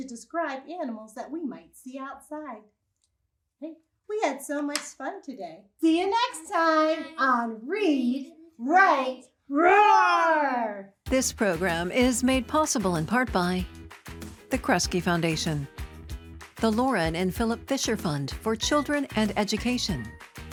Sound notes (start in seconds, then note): 3.8 marker clatters